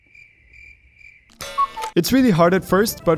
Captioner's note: crickets chirping